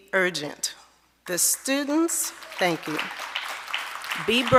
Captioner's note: audience applauding